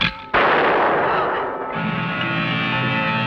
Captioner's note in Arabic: إطلاق نار